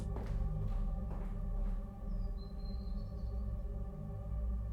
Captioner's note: footsteps fading